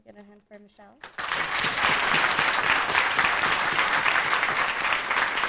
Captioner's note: audience applauding